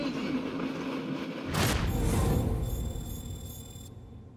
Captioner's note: trilling